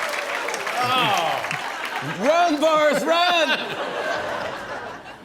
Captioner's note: cheers and applause; laughter